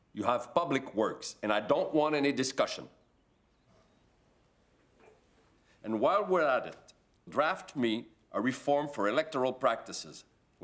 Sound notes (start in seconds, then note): none